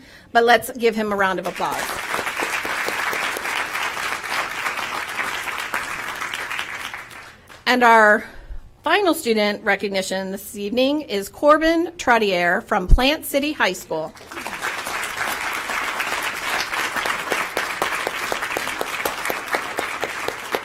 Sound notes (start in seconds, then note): 7.2 applause